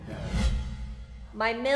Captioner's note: air whooshing